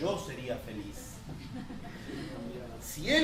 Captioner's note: laughter